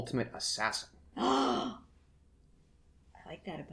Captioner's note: gasp